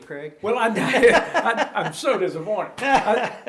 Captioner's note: laughing